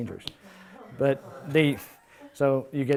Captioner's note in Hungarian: Nevetés